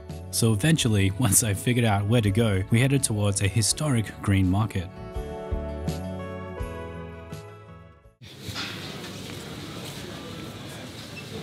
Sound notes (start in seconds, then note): 8.2 market noise